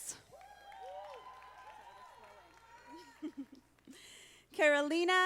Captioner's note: audience applauding